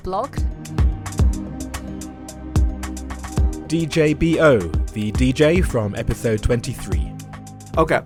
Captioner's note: voiceover